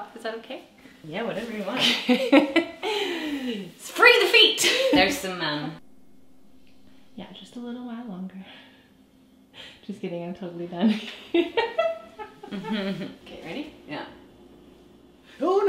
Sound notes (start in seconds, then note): 2.3 laughing; 11.4 laughing